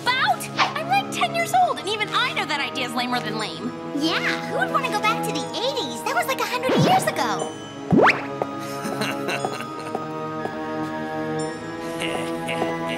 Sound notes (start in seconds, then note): 8.7 boogie gus laughing